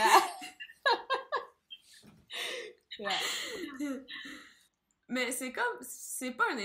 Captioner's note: laugh